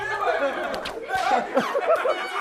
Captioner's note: slapping